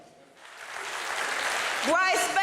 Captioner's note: audience applauding